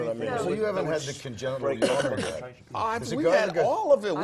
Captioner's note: cough